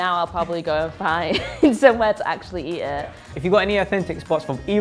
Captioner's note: laughs